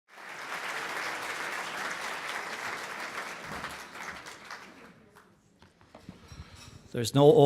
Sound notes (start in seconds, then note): 0.0 applause